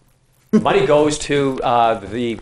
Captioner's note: whispering